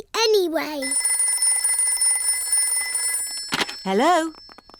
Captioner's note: phone rings